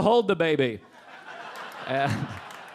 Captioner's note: audience laughing